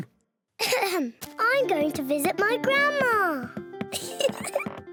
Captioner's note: clears throat; giggles